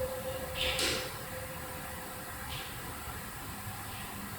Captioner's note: door slamming